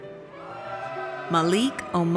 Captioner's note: audience cheers